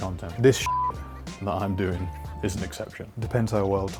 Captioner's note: beep